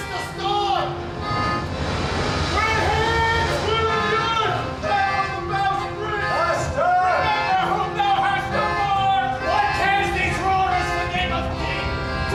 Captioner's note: muffled shouts and thunder